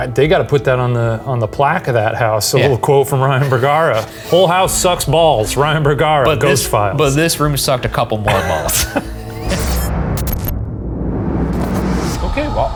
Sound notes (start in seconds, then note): 8.2 both laughing; 9.7 tense foreboding music